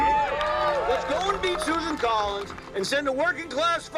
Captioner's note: cheering